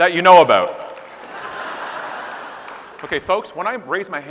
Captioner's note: audience laughing